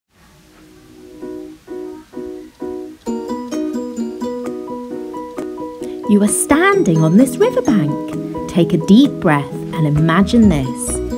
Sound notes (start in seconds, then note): 0.1 static sound; 2.8 upbeat music starts; 6.0 upbeat music continues